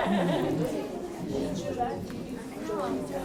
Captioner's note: awkward laughter